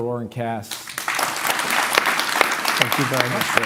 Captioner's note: applause